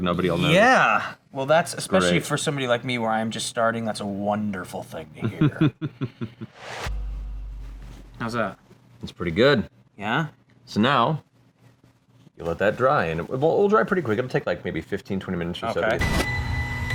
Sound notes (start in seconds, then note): 5.4 chuckles; 8.3 intense note